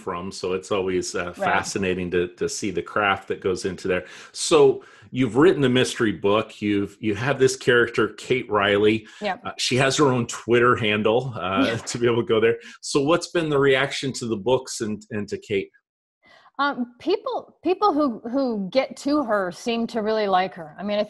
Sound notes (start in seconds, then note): 11.5 chuckles